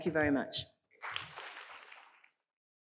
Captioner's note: applause